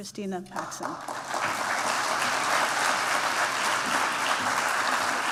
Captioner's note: applause